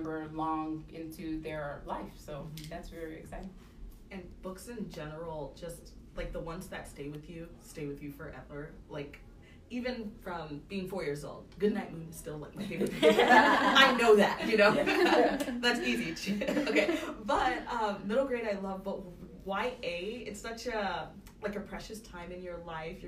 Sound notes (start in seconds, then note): 12.6 laughter